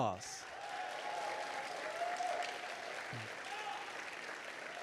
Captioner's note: audience applauding